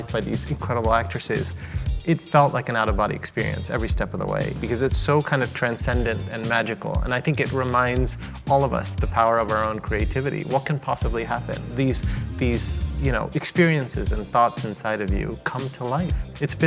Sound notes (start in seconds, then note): none